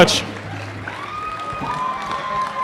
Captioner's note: applause